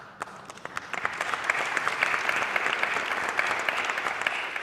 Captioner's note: audience applauding